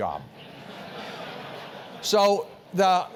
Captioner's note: laugh